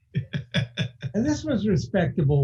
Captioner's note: laughing